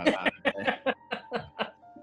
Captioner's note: laughter; giggling